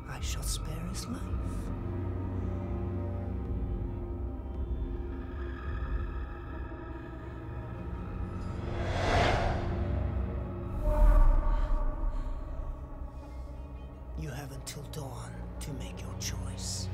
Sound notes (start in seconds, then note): 8.3 whooshing; 10.5 dramatic music